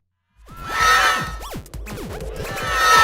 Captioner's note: all scream from left to right; all scream